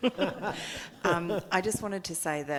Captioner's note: audience laughing